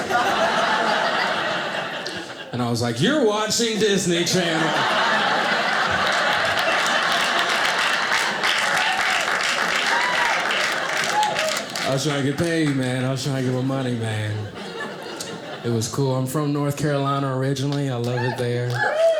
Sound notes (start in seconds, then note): 0.0 audience laughing; 4.9 audience laughing; 8.0 audience applauding